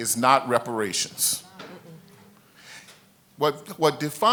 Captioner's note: congregation murmurs